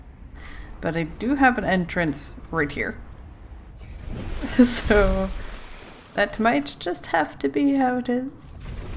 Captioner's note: laughs